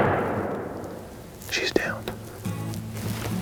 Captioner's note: whispering